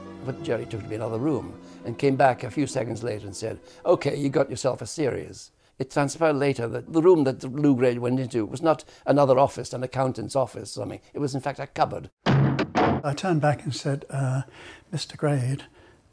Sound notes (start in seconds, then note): 12.2 thuds; 12.2 slams